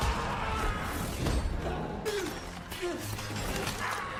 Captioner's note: victim screaming